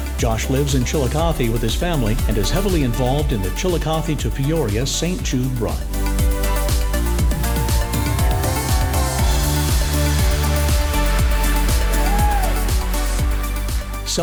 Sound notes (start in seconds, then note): 7.2 audience cheering and applauding; 9.3 upbeat cheerful music continues